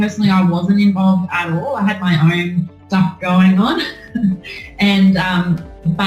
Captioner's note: laughs